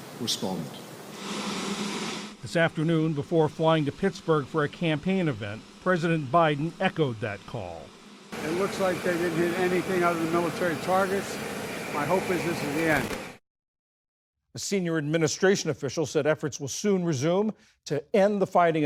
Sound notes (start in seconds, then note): 2.7 voice-over